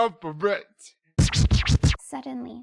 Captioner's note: old-school record scratch